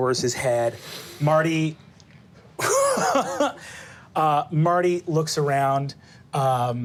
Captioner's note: laughs